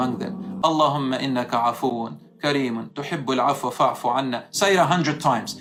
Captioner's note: Arabic